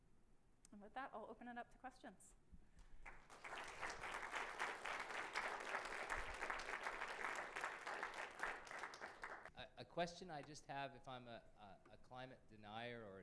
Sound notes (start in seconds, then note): 2.9 applause